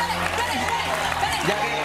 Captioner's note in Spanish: aplausos